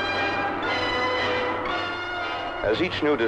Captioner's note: dramatic orchestral music continues; machinery whirring